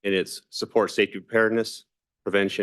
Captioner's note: none